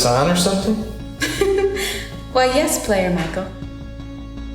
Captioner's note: chuckles